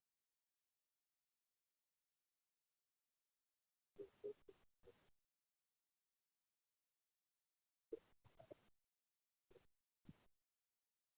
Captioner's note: no sound